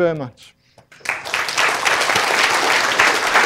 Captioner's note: applause